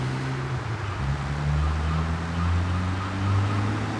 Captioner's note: yelling